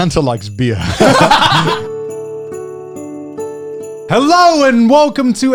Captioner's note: upbeat music; laughing